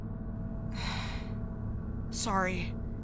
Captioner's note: celeste sighs